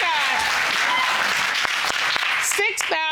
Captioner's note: audience applauds